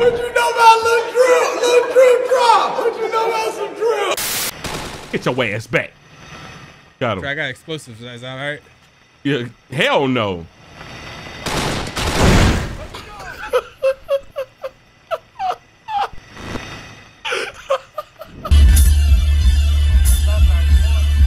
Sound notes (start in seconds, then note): 12.5 wheezing; 18.4 funk music